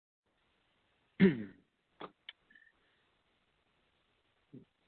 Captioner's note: clears throat